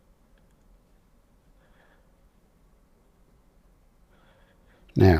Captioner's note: silence